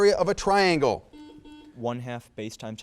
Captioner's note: buzzer buzzes